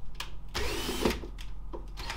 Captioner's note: drill whirring